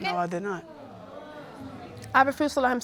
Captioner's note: audience exclaims